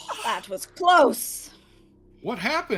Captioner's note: exhales